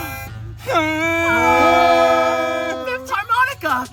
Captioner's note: harmonica playing; campers humming